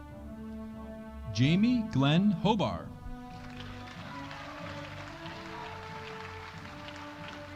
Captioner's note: audience applauding